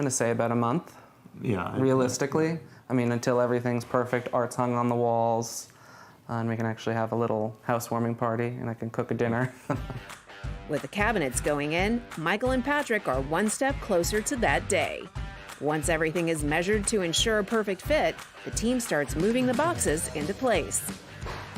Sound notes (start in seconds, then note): 9.6 laughs